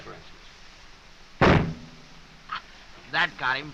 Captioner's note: gunshot